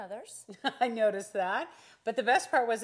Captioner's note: laughing